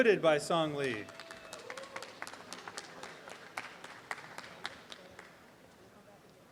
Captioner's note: applause and cheeering